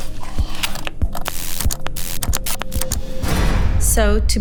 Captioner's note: zapper buzzing